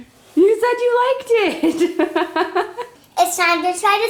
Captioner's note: laughing